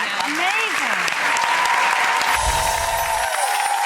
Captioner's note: applause